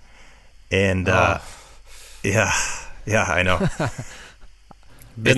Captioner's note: exasperated sigh